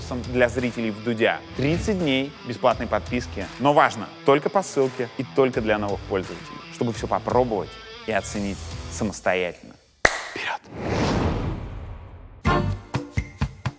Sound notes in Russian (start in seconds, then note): 10.0 хлопает